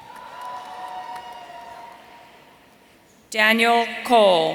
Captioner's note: audience cheering